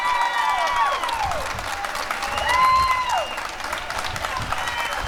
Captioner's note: cheering and applause